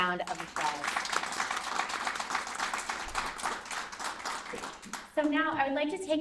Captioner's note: applause